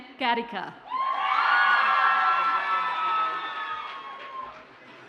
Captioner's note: audience cheers and applauds